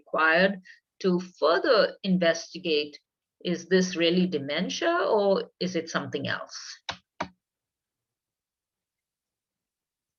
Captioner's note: keyboard sounds